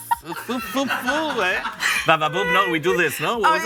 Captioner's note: laughs